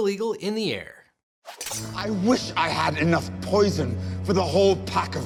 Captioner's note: sword clangs